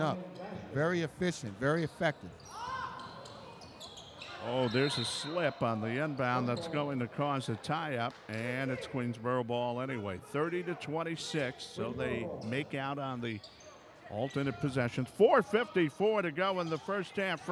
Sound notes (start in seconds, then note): 1.8 shoes squeaking; 2.7 yelling